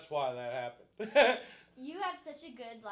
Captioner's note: laughing